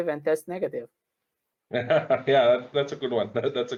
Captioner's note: laugher